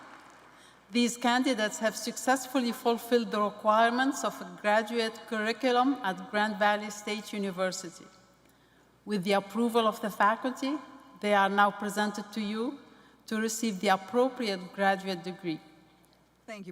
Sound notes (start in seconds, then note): 0.0 cheers and applause